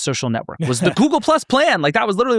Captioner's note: laughs